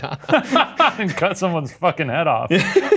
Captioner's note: both laugh